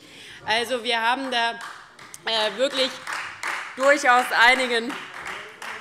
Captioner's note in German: Beifall Freie Demokraten